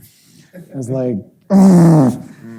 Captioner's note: grunts